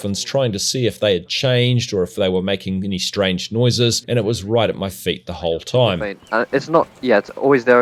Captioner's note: excited chatting